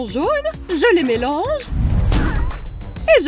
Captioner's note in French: boum